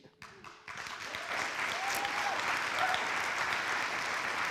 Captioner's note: audience applauds